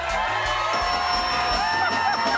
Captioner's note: dinging